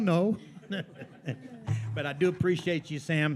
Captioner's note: attendees laughing